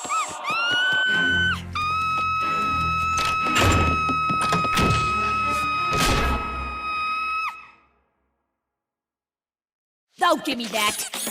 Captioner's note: screaming